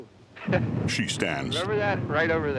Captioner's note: chuckling